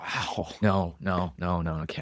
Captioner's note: laughs